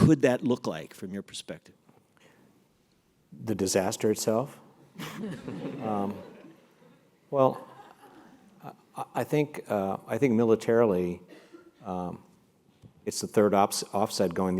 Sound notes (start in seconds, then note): 5.0 laugh